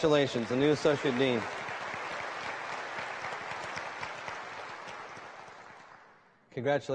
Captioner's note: applause